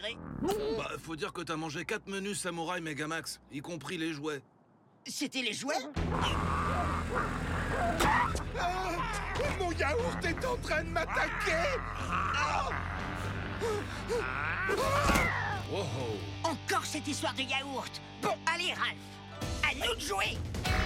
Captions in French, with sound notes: Faut dire que t'as mangé quatre menus Samouraï méga-max, y compris les jouets. C'était les jouets ? Mon yaourt est en train de m'attaquer ! -[créature qui grogne] -[cri] [homme qui gémit] Encore cette histoire de yaourt. Bon, allez, Ralph ! À nous de jouer !